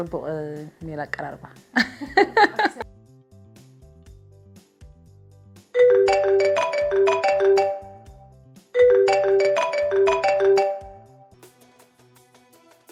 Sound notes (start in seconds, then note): 1.8 laughs; 5.8 phone-ringing